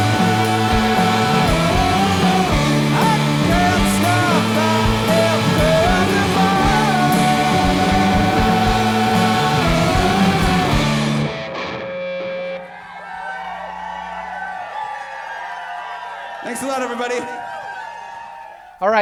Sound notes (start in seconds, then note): 14.3 crowd cheering